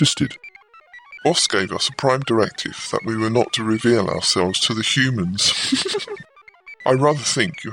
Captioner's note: laughs